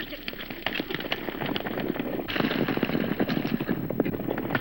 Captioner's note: none